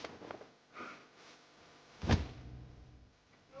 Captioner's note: body thud